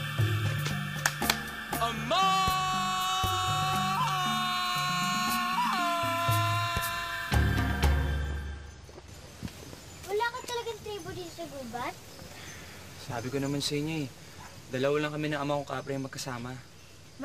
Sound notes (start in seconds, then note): 1.8 bellows